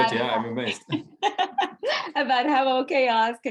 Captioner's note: chuckling